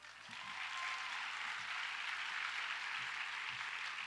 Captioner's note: audience applauds